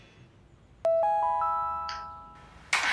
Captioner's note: notification sound